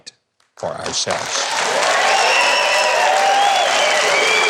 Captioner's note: crowd cheering